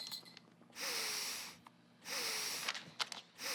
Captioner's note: sniffing